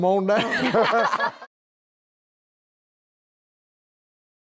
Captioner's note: laughter